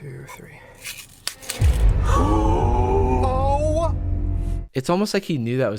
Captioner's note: all gasping